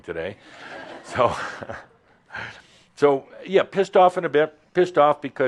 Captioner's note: a few chuckles